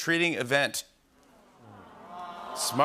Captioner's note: audience awws